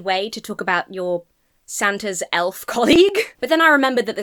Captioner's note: chuckles